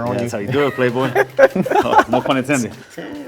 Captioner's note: laugh